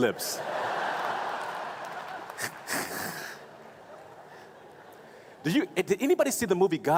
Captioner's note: laughing